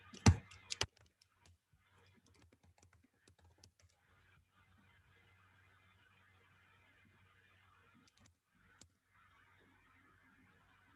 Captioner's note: keyboard clanking